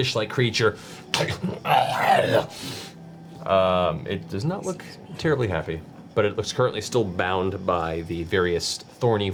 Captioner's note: growls